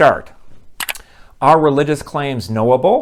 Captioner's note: mouse click